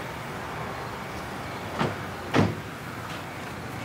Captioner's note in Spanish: Portazos